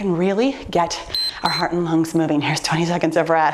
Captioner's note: timer beeps